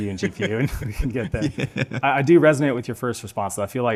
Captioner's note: laughing